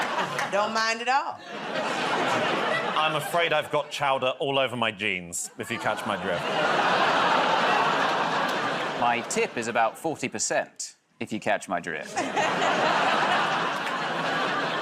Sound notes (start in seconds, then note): 6.3 laughter, groaning; 12.0 laughter